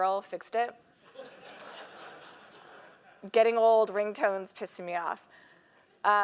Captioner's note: laugh